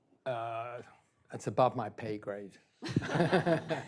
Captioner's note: students laugh; laughs